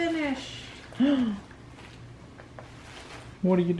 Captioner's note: playfully gasps